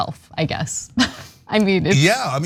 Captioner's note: laugh